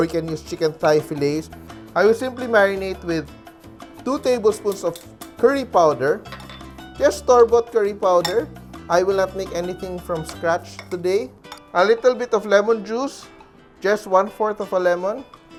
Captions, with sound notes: or you can use chicken thigh fillets. I will simply marinate with -- 2 tablespoons of [Clang] -- [Clang] curry powder. Just store-bought curry powder. I will not make anything from scratch today. [Clang] A little bit of lemon juice. Just 1/4 of a lemon.